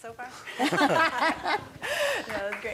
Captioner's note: laughter